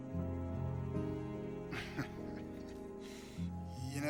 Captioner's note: chuckles